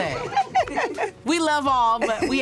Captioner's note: laughing